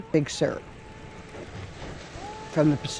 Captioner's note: waves crashing